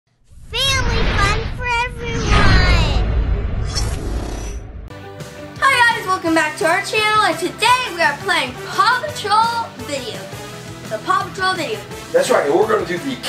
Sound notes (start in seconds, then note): 0.2 whoosh sound; 5.2 bright music